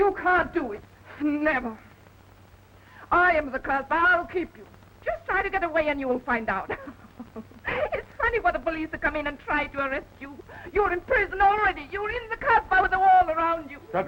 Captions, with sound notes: - You can't do it. Never. I am the Casbah. I'll keep you. Just try to get away and you will find out. (chuckles) It's funny for the police to come in and try to arrest you. You're in prison already. You're in the Casbah with the wall around you.